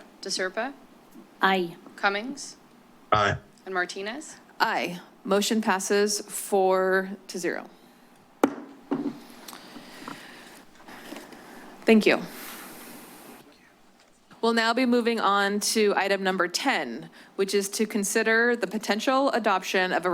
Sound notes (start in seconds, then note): 8.5 gavel tap